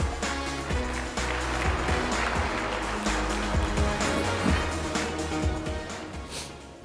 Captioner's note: applause